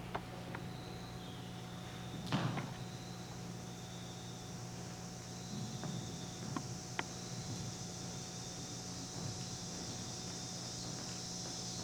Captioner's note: the sound of cicadas buzzing slowly rises